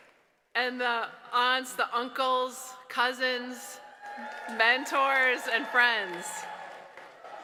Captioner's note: applause